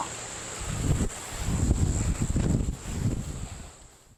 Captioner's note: wind blowing